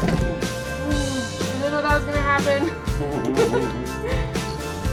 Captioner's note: laughing